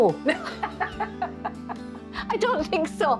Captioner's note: both laugh